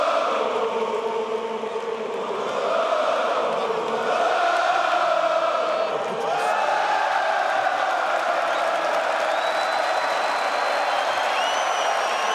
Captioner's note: crowd chanting; crowd chanting